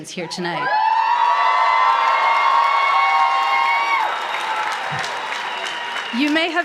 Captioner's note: applause